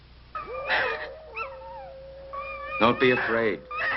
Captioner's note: wolf yelping